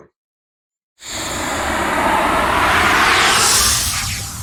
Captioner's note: logo whooshing